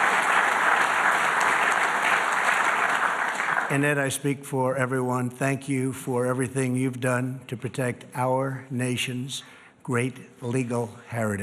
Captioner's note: applause